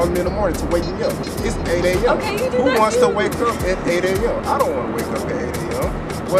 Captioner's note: laughs